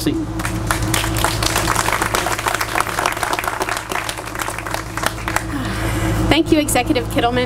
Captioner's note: applause